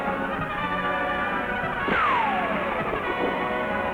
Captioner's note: gun fires; thrilling music